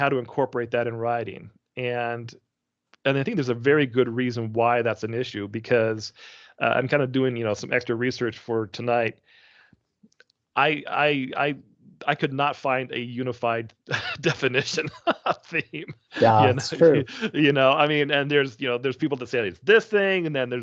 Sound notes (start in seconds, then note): 13.8 chuckling